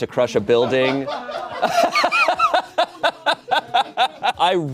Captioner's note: audience laughing